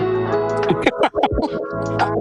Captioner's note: upbeat music; laughing